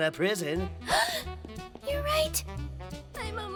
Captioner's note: gasp!